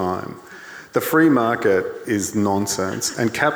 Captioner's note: audience laughing